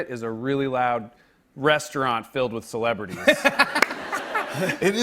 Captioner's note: laughter